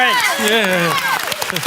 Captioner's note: applause